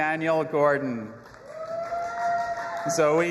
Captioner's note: audience applauding and cheering